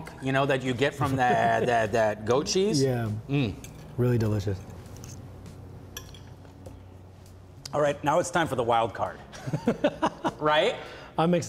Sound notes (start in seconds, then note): 9.4 laughing